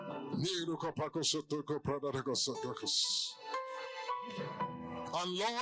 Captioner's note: in Zungen betend